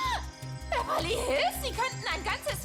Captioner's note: shriek